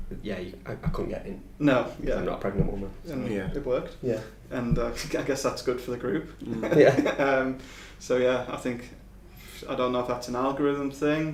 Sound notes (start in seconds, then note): 6.4 laughing